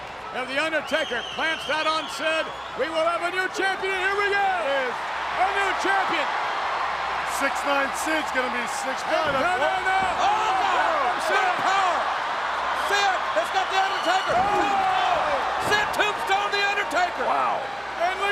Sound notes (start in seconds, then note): 6.2 audience cheers; 11.2 audience cheers